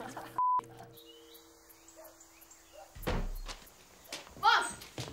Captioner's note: boy laughs; birds chirping